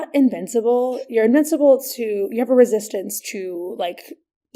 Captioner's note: none